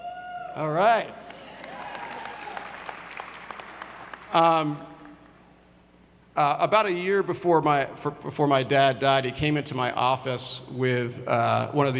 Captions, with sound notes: (audience members cheer) All right! About a year before my, before my dad died, he came into my office with one